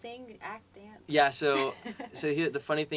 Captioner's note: laugh